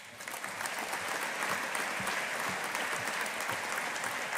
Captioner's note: audience applauding